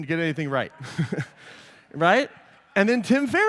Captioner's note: laughter